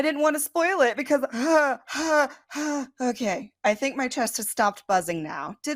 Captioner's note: three worrying sighs